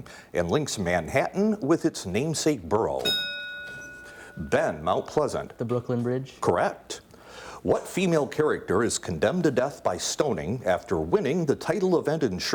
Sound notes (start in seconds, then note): 3.0 ding